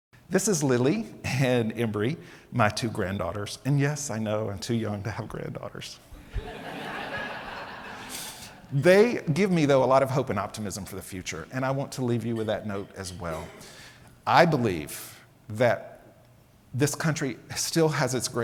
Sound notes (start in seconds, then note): 6.2 audience laughs